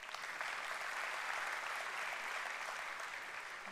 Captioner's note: applause